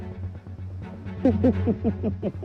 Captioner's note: evil laughter